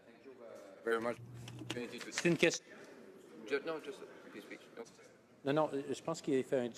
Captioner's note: some Applause